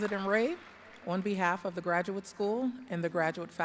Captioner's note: applause